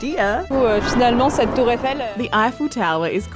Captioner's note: speaks french